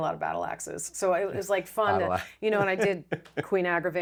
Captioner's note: laughs